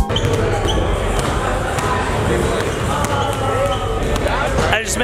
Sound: basketballs bouncing

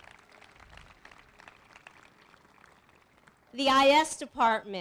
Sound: applause

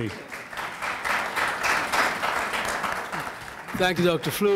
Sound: audience applauding

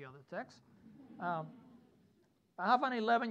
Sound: students laughing

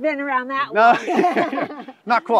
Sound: both laugh

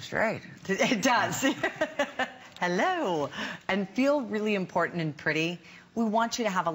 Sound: laughter

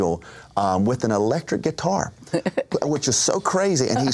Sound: laughs

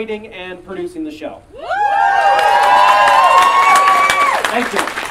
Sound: audience Cheering and Clapping

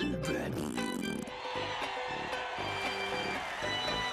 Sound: audience cheering

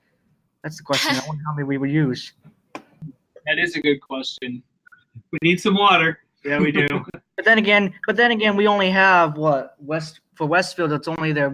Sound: group laughs

